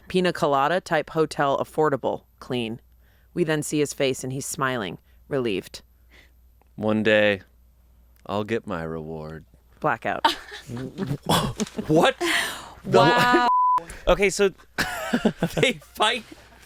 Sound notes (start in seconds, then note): 13.2 beep; 15.0 laughs